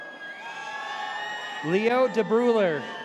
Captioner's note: audience cheers